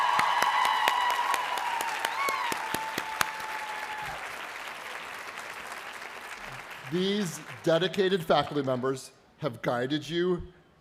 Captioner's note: cheers and applause